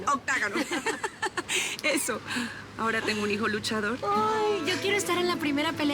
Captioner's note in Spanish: Risas